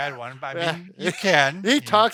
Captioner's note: laughs